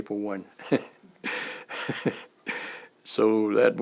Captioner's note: laughter